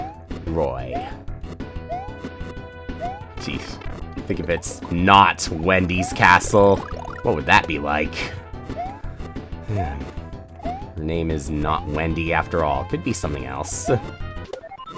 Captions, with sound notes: ...Roy. Sheesh. To think, if it's "Not Wendy's Castle"... ...what would that be like? (*sigh*) Her name is not Wendy, after all. It could be something else.